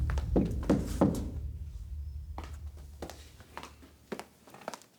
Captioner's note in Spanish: toques en la puerta